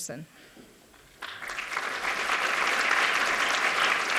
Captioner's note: applause